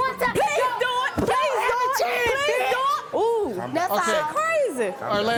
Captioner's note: shouting over each other